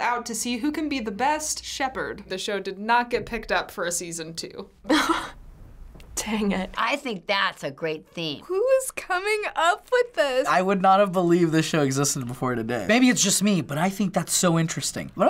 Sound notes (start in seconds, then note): 4.8 chuckles